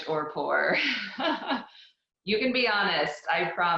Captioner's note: laughs